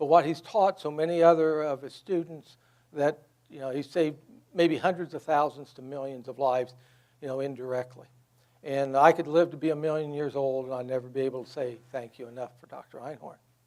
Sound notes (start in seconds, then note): none